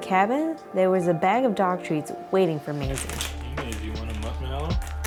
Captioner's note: crinkles